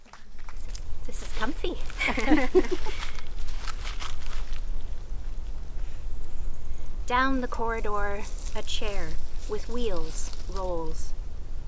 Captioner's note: group laughing